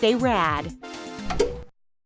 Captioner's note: clunk